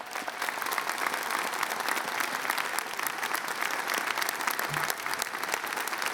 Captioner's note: applause